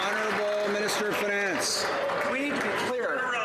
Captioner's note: some Applause